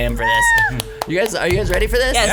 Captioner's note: screams